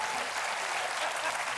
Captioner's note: cheers and applause